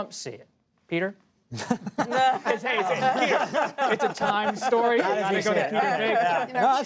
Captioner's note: laughter